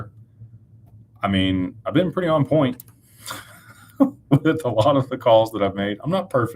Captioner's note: laughter